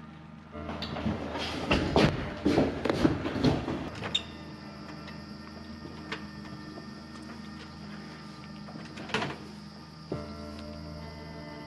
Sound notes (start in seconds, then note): 0.8 seat clattering; 4.7 insects chirping